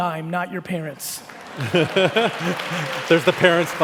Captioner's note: laughing